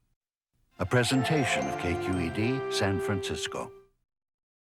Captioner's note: voiceover